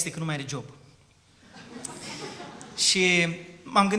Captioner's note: laughter